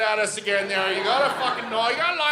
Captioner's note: audience laughing